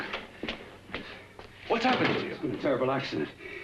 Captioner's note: door closes